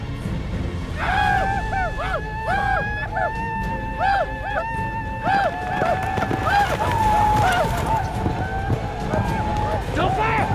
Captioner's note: arapaho war cries